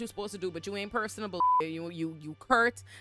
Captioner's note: beep